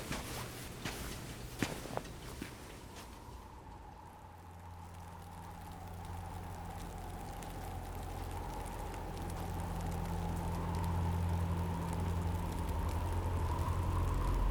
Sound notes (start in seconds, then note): 0.0 footsteps thudding; 3.7 wind whooshing